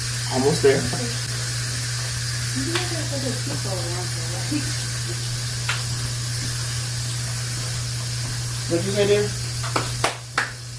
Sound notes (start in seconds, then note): 2.6 pressure cooker whistling drowns out other sounds